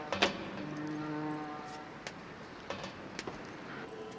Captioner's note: foghorn